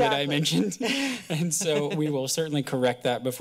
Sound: laughter

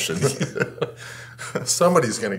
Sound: both laughing

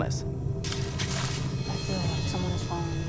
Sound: branches snapping

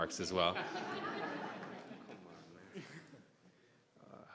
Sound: all laughing

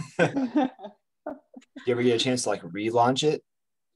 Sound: laughs

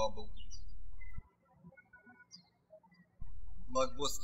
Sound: birds chirping

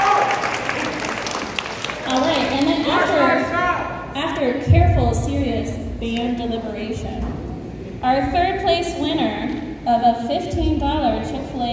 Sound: cheering

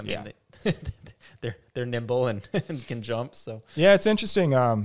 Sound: laughs

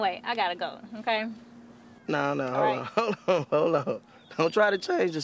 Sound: laughs

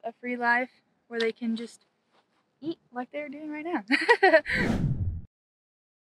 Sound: laugh

